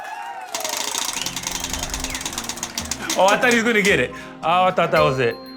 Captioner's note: cheering